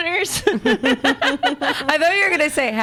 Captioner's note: laughs